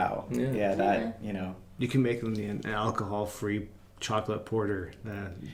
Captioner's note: laughing